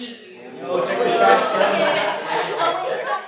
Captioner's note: laughter